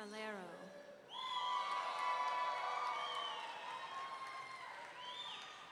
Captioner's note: audience cheering